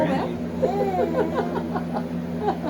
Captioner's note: warm laughter; baby babbles